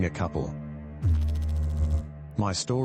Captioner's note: electrical noise